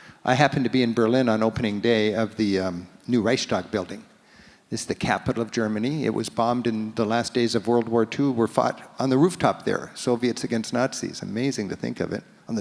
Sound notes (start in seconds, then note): none